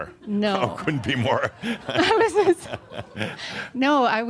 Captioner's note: they chuckle